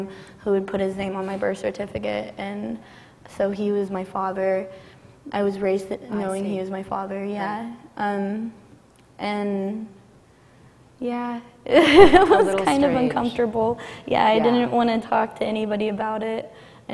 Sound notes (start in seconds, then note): 9.9 laughs